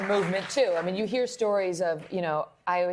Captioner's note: applause